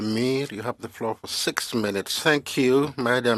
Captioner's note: speaking French